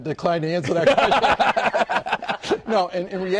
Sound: laughter

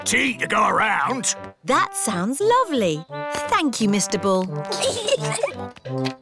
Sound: peppa and george giggle

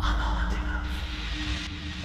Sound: whispered

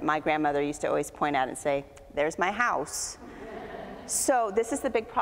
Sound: audience laughs

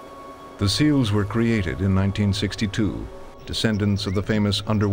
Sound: voiceover

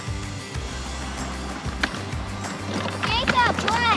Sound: wagon wheels rolling through rocky dirt

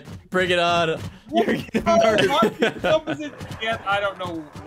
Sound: laughter

